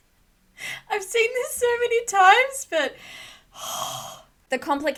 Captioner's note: deep breath